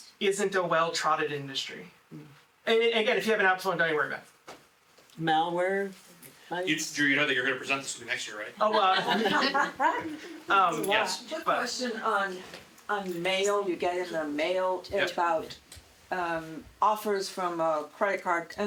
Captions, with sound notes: isn't a well-trotted industry. And again, if you have an Apple phone, don't you worry about it. Malware? Drew, you know that you're gonna present this to me next year, right? Oh, well. (audience laughing) Yes. Question on mail, you get it in a mail. It's about offers from a credit card.